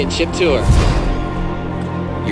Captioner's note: whoosh